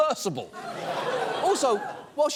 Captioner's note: audience laughs